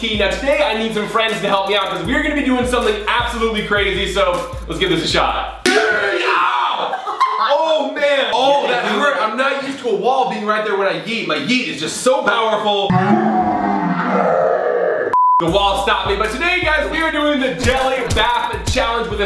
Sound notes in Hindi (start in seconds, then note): 0.0 बास भारी इलेक्ट्रॉनिक संगीत; 5.6 समूह चीयर्स; 6.8 अनियंत्रित हंसते हुए; 12.9 Roars; 15.1 बीप